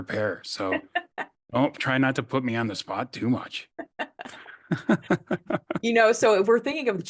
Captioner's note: laughs